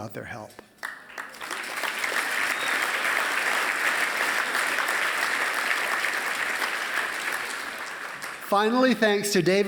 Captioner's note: applause